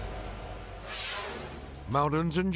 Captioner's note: video swooshing